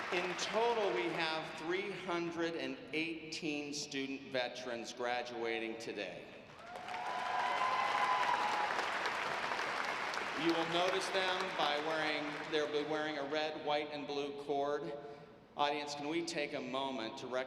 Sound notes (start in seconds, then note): 6.6 audience applauding